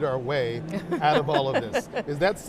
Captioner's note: laughs